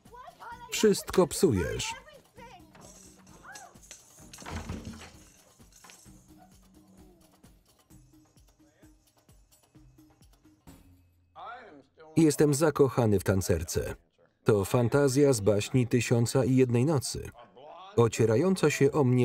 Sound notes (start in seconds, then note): 3.9 thudding